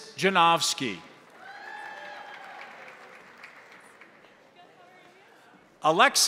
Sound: crowd applauding; crowd cheering

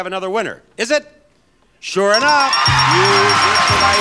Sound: bell dinging

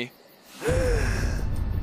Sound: Harold Gasping

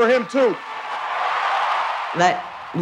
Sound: crowd cheers

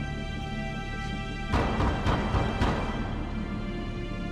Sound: knocks

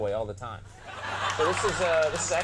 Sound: audience laughing

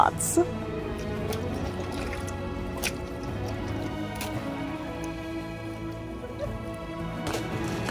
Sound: background music; gentle water splashing noises; background music; ice shuffling noises

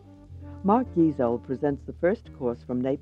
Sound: voiceover

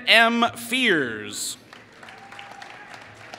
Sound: applause

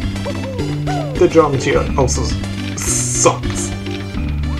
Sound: collision

